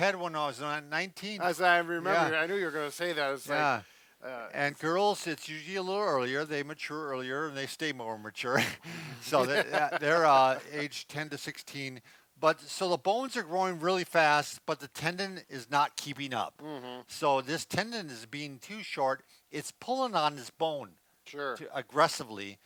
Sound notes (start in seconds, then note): 8.6 both laughing